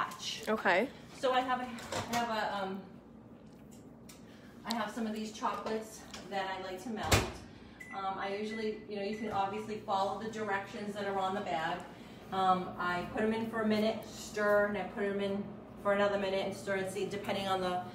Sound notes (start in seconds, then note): none